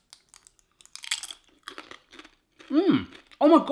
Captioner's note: crunching